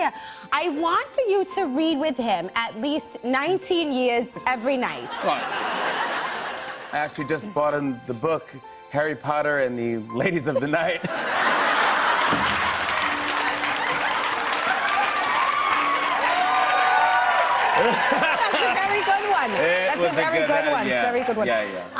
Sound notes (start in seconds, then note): 5.1 laughter; 10.6 laughter; 13.5 cheers and applause